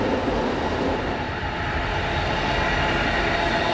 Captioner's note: train whooshing